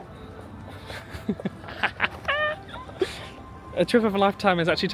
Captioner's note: laughing